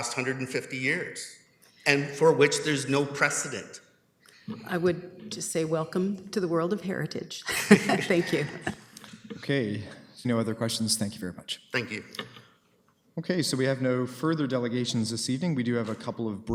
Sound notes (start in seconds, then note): 7.4 laughter